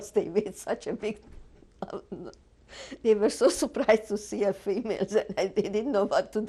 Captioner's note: laughs